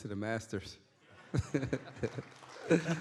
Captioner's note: chuckles; audience claps